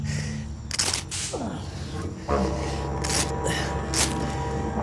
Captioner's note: grunting